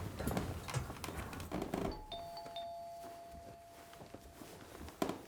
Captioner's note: doorbell ringing